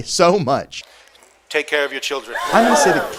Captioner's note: sound of a crowd gasping